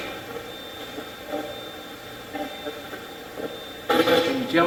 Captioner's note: Steve's Box chatters